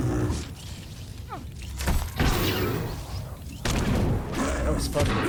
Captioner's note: exploding